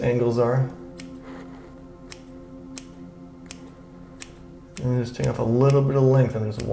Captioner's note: scissors snipping